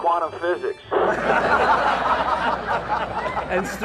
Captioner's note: crowd laughs